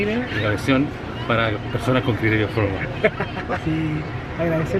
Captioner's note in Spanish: risas